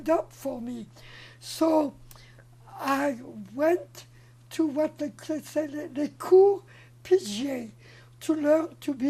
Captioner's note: french